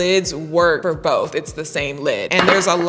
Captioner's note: containers clatter